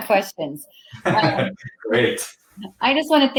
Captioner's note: laughing